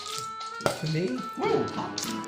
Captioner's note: pop